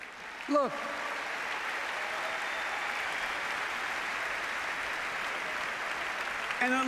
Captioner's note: applause